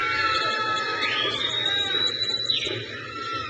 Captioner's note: crowd cheers